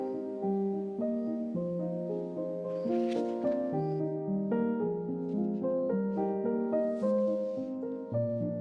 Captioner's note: bird